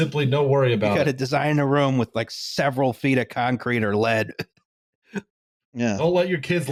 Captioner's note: laughing